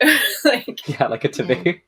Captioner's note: laughing; laughs